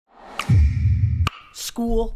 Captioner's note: electronic sound